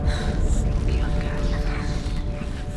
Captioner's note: indistinct chatter